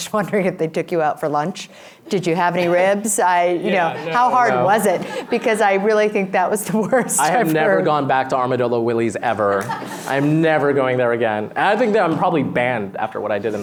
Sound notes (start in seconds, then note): 7.2 laughs; 9.4 laughter